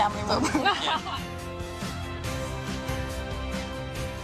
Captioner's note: people laughing